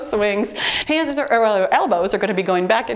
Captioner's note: timer beeps